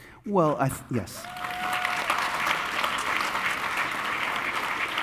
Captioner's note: audience applauding